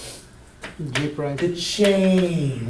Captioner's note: voiceover